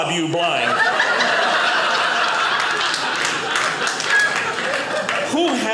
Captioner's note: audience laughing